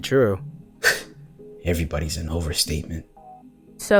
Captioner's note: scoffs